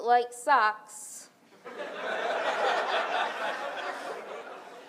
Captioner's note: audience laughs